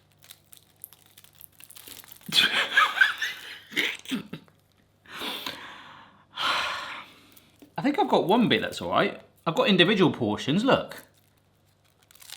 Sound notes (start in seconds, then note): 2.3 laughs; 6.6 sighs